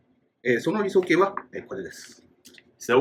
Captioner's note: speaking Japanese